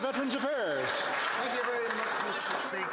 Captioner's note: some Applause